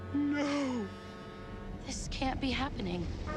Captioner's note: gasps